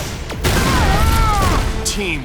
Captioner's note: screaming